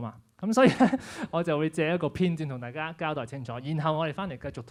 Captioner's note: laughs